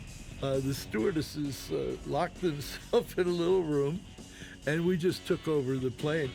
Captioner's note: laughing